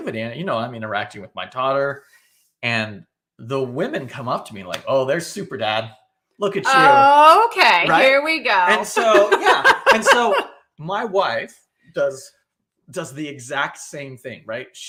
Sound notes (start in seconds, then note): 8.4 laughing